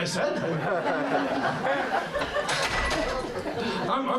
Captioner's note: laughter